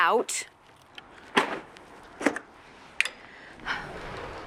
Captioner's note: garbage bag hits floor; Ruth scoffs; sliding door closes